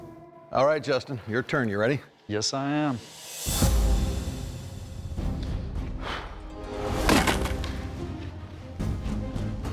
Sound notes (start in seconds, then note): 7.0 ice cracking